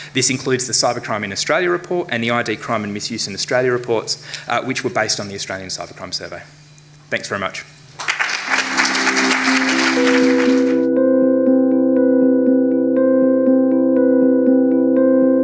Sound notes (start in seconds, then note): 7.9 audience clapping; 8.0 lively music